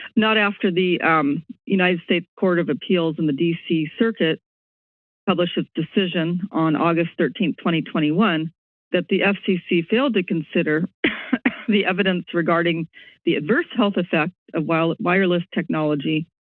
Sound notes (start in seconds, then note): 11.0 coughs